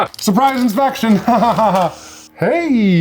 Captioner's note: laughing; laughs